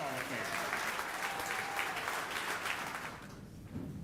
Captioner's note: audience applauding